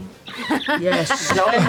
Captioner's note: laughter